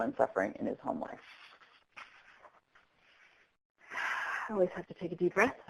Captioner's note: sighs